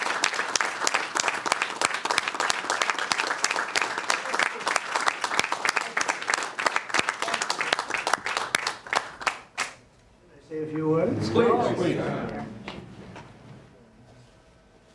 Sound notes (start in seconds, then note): 3.9 applause